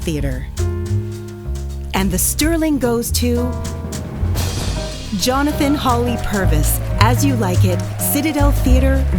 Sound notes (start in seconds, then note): 3.4 drumroll; 4.9 applause